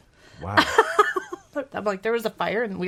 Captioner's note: laughing